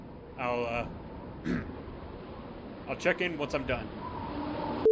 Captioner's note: clearing throat